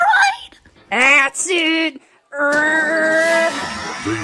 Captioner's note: Usapyon grunts